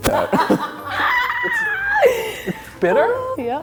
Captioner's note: laughs